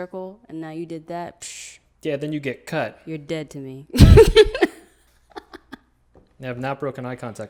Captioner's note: laughs